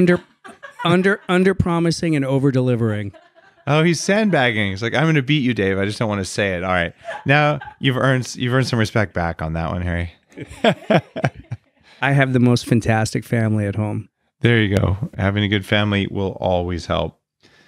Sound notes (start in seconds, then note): 0.0 laughs; 6.6 laughs; 10.3 laughing